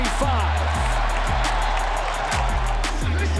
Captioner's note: crowd cheers